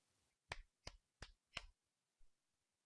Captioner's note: clapping